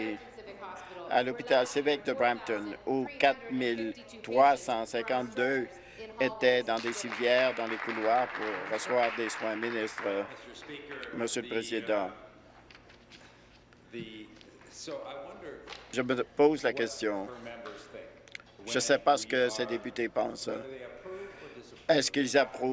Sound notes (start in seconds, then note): 12.0 applause